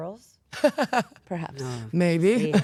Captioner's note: Paige laughs